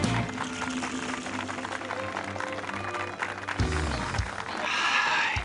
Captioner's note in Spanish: aplausos